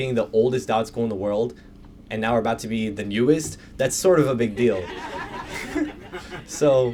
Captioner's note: laughter